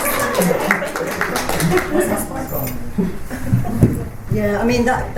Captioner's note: panellists and audience applaud